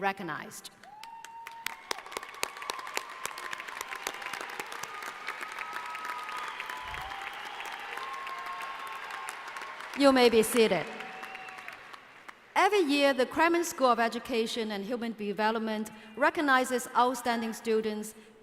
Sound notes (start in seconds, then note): 0.8 applause